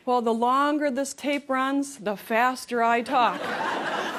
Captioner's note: laughter